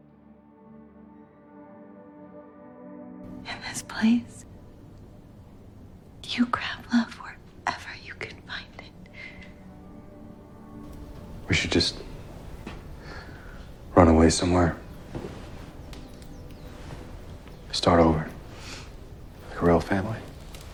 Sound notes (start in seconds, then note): 3.5 voiceover; 3.9 whispering; 11.5 voiceover